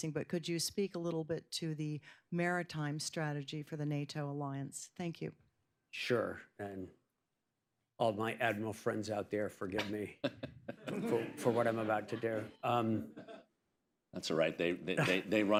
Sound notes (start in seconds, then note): 12.5 laughter; 14.9 laughter